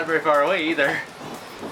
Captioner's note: thunder claps; both gasp